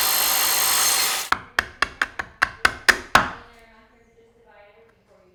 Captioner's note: chisel hammering